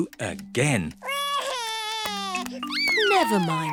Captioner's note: sobs